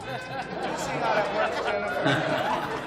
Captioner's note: laughter